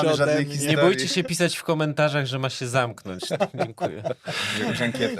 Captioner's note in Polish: śmiech